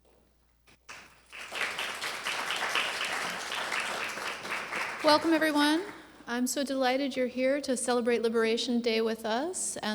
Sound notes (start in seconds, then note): 0.8 applause